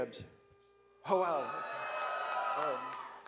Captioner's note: audience cheers